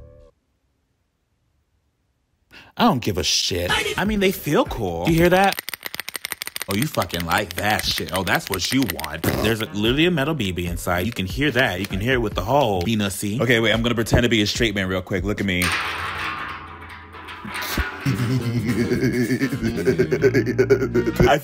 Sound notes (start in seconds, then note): 6.0 bean rattling; 8.9 lip-trilling; 15.5 bean rattling; 17.6 goofy music; 18.0 laughing